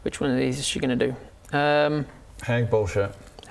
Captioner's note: none